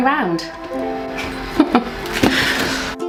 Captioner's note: giggles